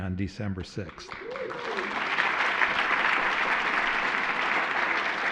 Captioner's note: applause